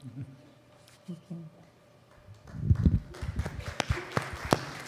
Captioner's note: applause